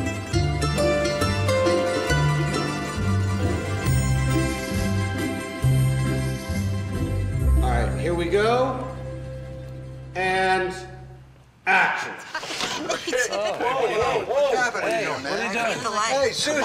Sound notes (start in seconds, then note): 6.1 music fades; 12.4 window shades grating